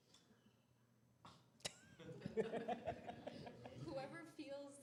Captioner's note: laughter